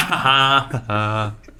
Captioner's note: laughing